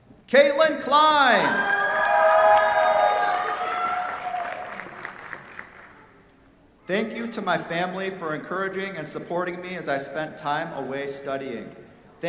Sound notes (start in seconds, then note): 1.4 cheers, applause